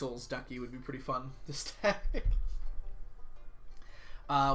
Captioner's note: laughs